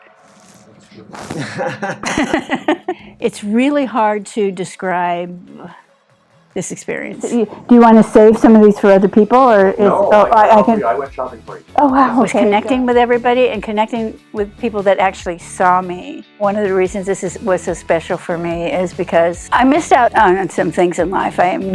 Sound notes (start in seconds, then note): 1.3 laughter